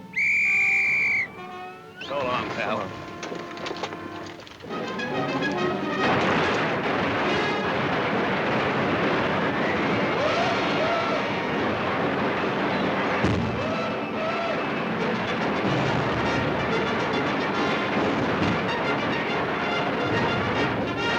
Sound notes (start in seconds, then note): 0.0 whistle trilling; 4.6 dramatic music; 5.8 guns firing; 13.5 explosion booming; 13.5 guns firing; 15.9 dramatic music